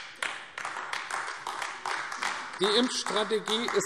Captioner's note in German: Beifall AfD